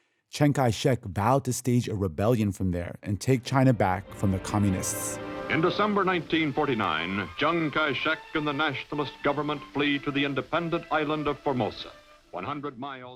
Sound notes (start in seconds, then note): 5.2 soundbite of archived recording